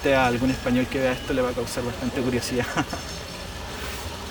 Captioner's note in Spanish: risas